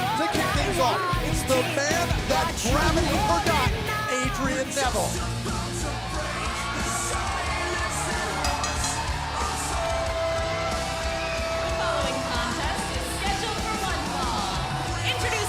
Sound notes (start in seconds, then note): 8.3 bell ringing